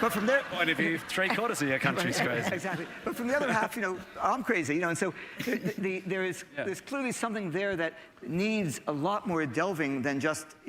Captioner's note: laughter